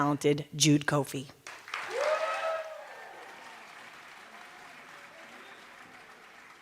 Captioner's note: cheers and applause